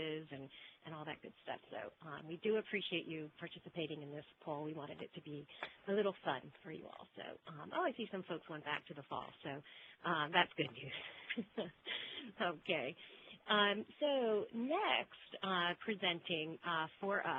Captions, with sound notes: and all that good stuff. We do appreciate you participating in this poll. We wanted it to be a little fun for you all, so I see some folks went back to the false, so that's good news. (laughs) Okay, so next presenting for us, so yes, it is false.